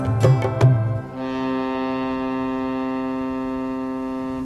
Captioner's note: ship honks